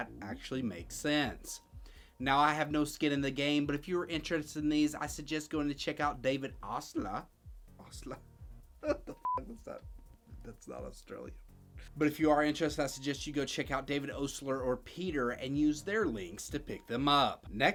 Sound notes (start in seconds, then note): 8.8 laughs; 9.2 beep